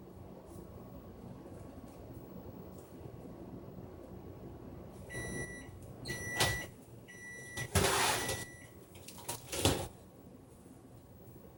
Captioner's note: buzzer goes off